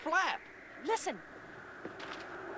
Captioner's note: wind blowing